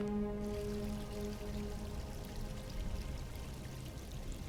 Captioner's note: water splashing